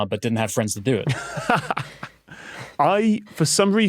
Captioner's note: laughs